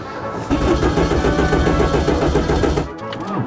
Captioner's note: engine stutters; engine stutters, then starts